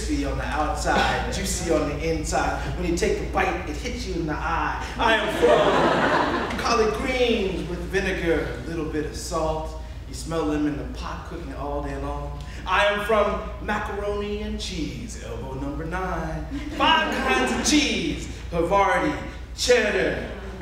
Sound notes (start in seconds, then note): 6.5 audience laughing